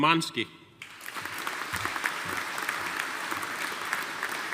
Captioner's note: audience applauding